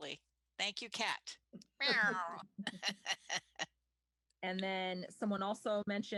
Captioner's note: laughter